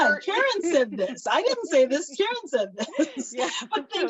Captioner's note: laughs